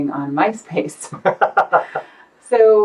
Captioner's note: laughs